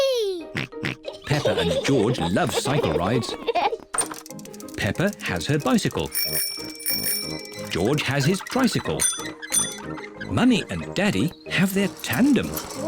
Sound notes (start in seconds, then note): 1.0 both giggle; 6.0 rings bell